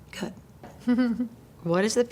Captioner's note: chuckles